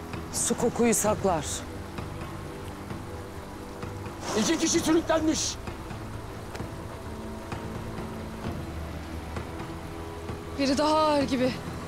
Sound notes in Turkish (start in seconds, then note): none